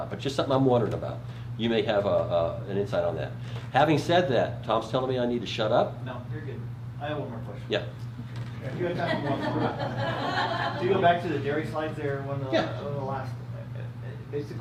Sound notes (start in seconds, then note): 8.8 crowd laughter